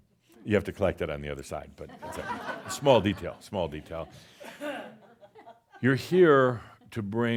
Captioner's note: some laughter